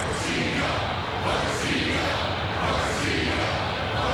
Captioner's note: crowd chanting